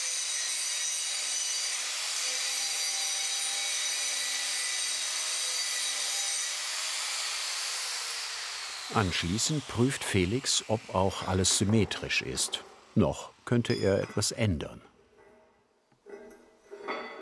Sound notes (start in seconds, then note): 7.0 the grinding noise fades away